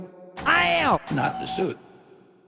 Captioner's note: in distorted voice